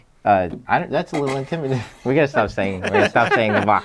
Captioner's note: chuckles